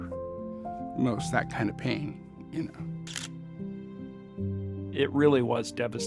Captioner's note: camera shutter clicks